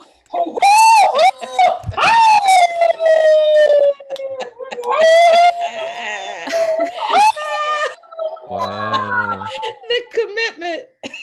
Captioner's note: extended howling